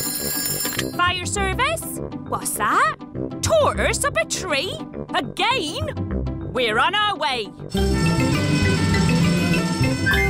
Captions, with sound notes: Fire service. What's that? Tortoise up a tree? Again? We're on our way. (SIREN WAILING)